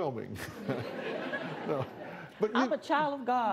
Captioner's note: laughter